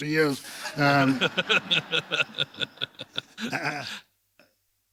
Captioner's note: laughter